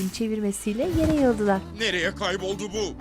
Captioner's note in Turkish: Düşme sesi